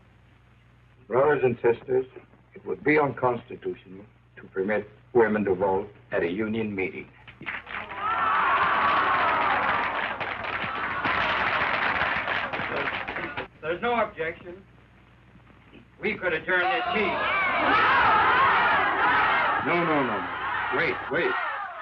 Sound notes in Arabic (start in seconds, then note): 7.3 الرجال يصفقون; 7.7 النساء يهتفن